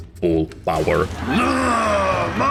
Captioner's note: Zote noises